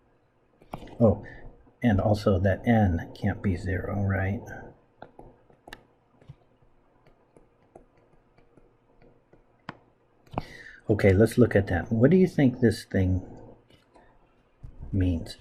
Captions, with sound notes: Oh, and also that N can't be zero, right? [ Writing Sounds ] Okay, let's look at that. What do you think this thing means?